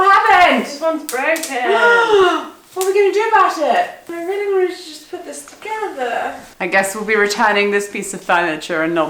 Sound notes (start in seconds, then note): 2.8 gasps